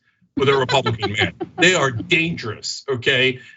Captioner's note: laugh